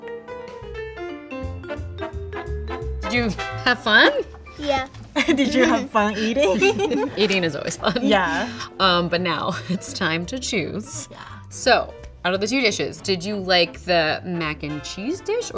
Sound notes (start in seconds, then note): 0.2 soft jazz music; 5.1 laughs